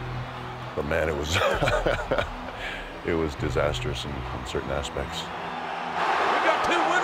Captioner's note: laugh